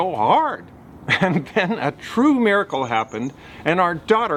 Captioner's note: chuckles